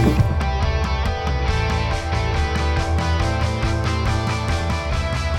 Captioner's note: applause